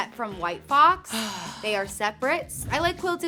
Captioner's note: sighing